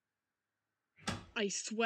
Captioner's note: door slams open